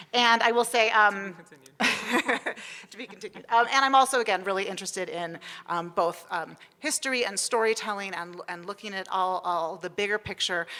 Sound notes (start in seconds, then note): 1.8 laughs